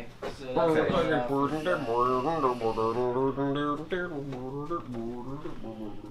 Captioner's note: people chattering the background